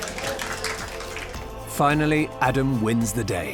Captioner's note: applause